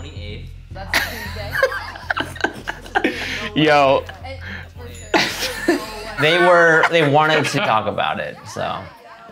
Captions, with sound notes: (laughing) Yo. - They wanted to talk about it, so.